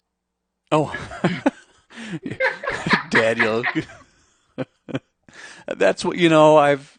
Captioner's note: laughs